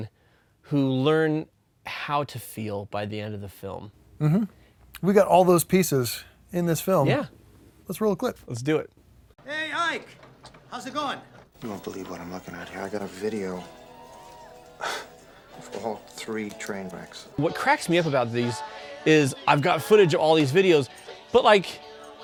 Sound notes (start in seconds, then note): 14.8 scoffs